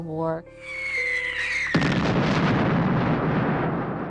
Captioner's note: explosion